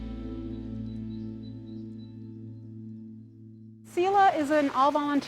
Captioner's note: birds chirping